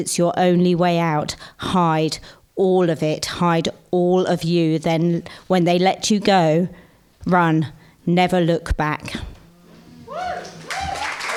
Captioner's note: whoop!